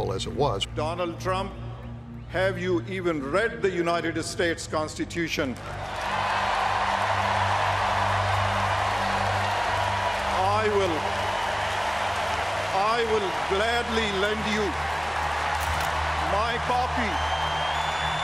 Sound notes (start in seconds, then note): 5.6 cheers and applause